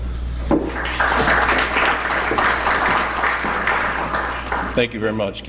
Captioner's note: applause